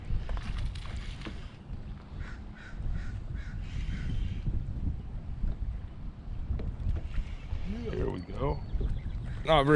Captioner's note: reel cranking